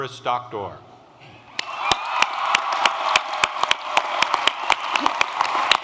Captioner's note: applause